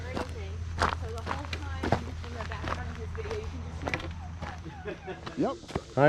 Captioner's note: whine